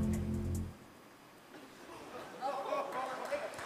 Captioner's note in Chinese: 笑聲